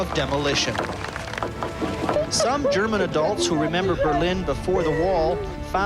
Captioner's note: rock hammers cement